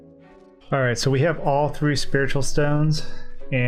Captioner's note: none